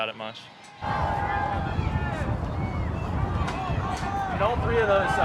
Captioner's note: crowd chattering